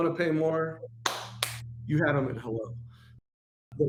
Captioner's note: claps